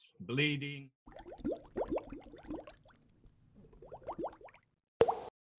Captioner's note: bubbles popping